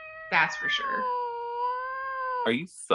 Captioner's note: cat meowing